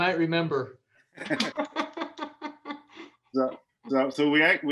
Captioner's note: laughs loudly